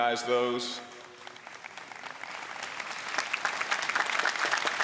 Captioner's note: applause